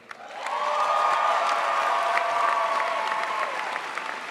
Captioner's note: crowd applauds